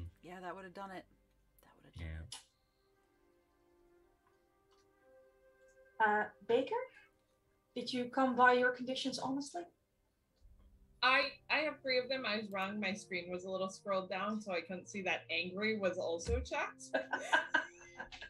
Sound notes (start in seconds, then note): 16.8 laugh